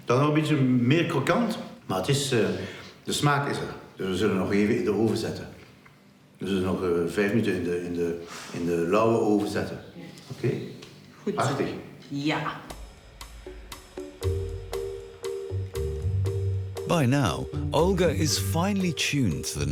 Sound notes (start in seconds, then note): 0.1 speaking in foreign language; 11.2 speaking in foreign language; 13.9 upbeat music